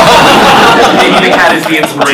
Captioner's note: laughter